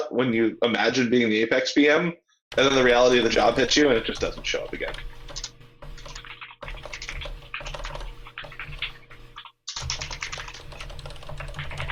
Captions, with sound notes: when you imagine being in the apex PM, other than the reality of the job hits you. And it just doesn't show up again. (keyboard keys clanking)